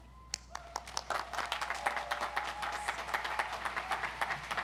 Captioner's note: audience applauds